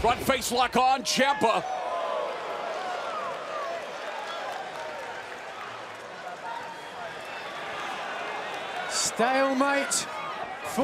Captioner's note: crowd cheering